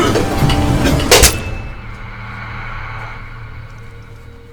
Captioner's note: coughing; blade slicing